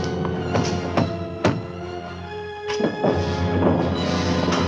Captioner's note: banging on door